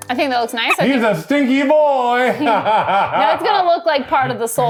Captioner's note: laughs